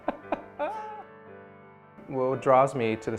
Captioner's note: laughter